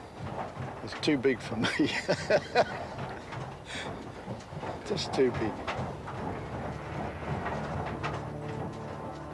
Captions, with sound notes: "It's too big for me." (laughing) "Just too big." (machines operating)